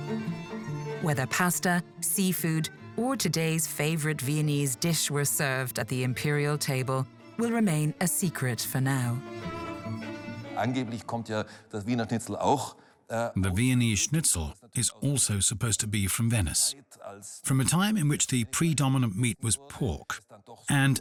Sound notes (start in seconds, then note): 10.6 speaks in foreign language